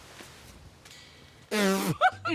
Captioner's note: laughs